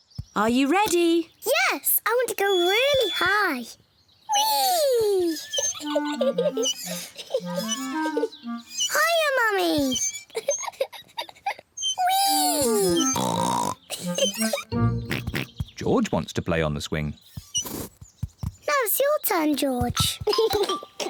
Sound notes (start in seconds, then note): 6.1 giggling; 12.2 oinks; 20.2 giggles